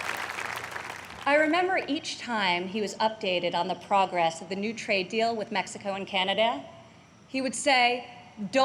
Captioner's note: applause